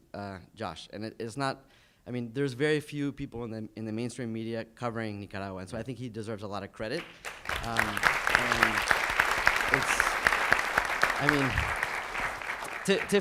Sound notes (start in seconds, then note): 7.0 audience applauds